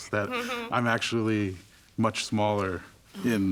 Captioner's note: laughing